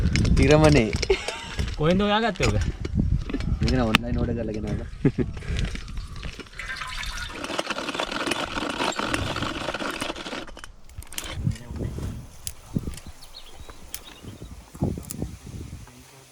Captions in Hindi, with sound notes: एक नारियल खुरचने वाला! आपको यह कहां से मिला? मैंने इसे ऑनलाइन ऑर्डर किया। [पक्षी चहकते हुए]